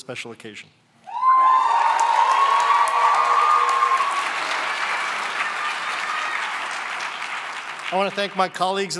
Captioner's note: cheering and applause